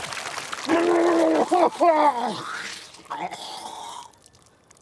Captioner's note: Walter sputtering